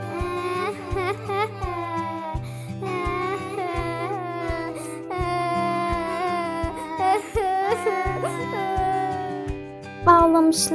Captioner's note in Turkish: Ağlama sesi